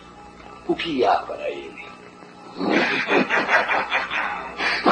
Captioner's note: demonic laughter